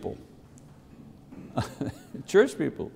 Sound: laughs

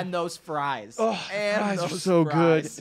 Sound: sighs

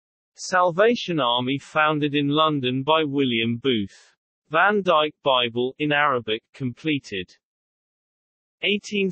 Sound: in Arabic

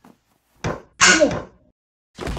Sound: slap; thunk thunk thunk

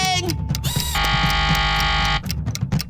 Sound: buzzer ringing

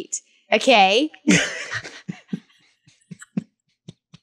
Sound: all laugh

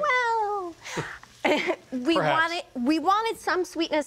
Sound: both chuckling

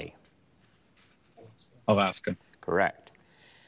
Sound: students whispering

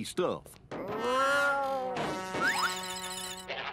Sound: meowing

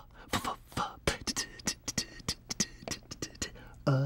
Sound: scats like a snare drum

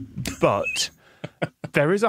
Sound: wheezes

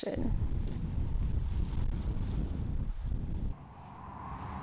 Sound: wind gushing

